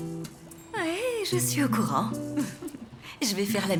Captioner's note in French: rires